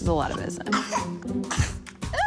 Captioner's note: coughs